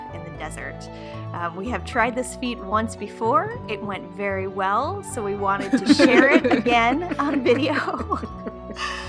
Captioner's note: sarcasm